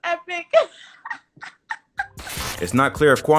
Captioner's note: laughing